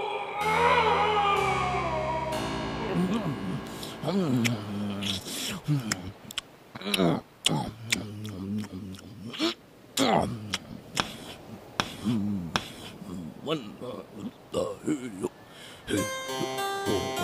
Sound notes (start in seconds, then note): 0.0 screams of pain; 4.0 hungry gobbling; 10.8 wood scraping; 15.8 pirate exercise humming